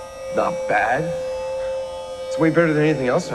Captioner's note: voiceover